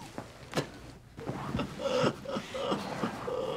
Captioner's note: laughs